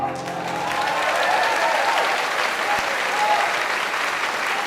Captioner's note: cheers and applause